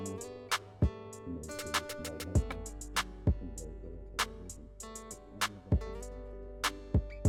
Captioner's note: speaking softly